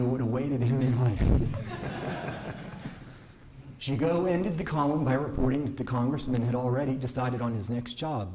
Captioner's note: laughter